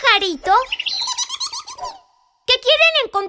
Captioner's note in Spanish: Sonido de pájaro